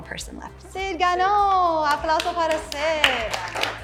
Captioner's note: speaks in Spanish language; students clapping